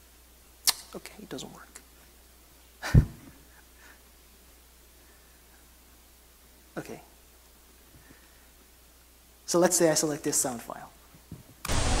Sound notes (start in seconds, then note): 2.9 laughs